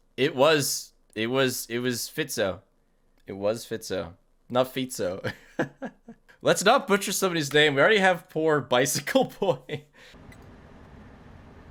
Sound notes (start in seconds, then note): 4.5 laughs